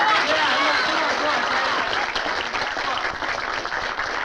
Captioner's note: crowd applauding